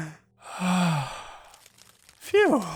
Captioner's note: loud inhale; loud exhale